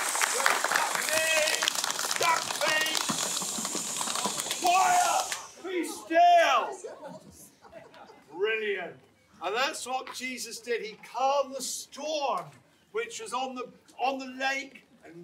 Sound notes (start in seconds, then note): 0.0 hands clapping; 3.3 feet thumping; 6.8 audience laughing